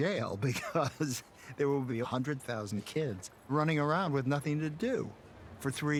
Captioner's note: laughing